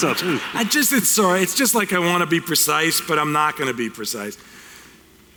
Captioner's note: laughter